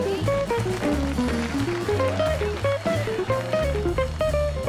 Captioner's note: crowd applauding